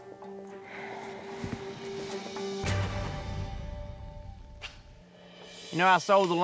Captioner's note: suspense music playing; sighs